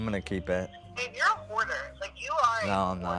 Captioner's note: on phone